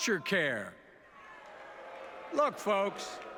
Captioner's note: boos in audience